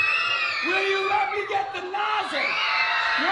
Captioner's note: children shouting